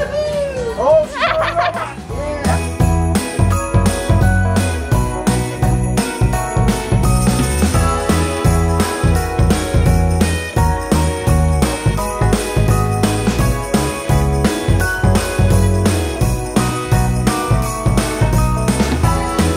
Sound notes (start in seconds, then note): 1.8 laughing; 2.8 upbeat music